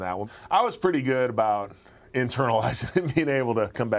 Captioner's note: laugh